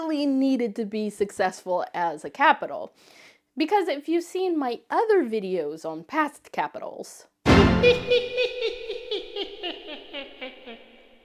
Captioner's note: whose laughing??